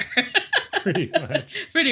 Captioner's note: laughs